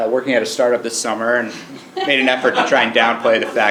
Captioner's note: laugh